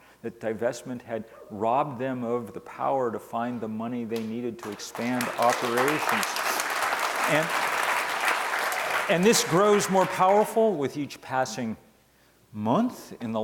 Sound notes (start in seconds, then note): 6.6 audience applause